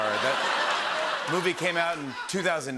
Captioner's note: laughter